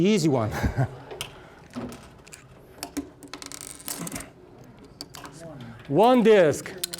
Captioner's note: laughing; puzzle pieces clattering